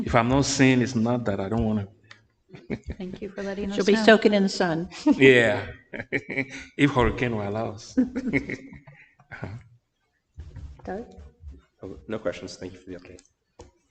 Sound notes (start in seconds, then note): 7.9 chuckling